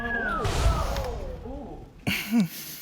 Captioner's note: exhales